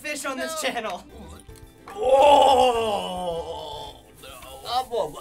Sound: gags

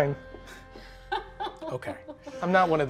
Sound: laughing

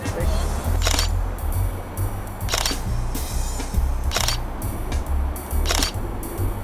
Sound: camera click sounds

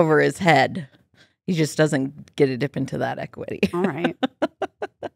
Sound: laughs

